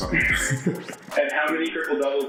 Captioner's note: laughing